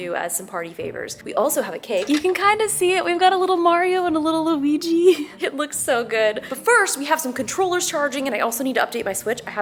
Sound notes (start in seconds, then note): 5.1 laughs